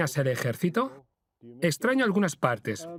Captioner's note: voiceover